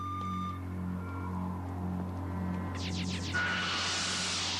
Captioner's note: machine whirring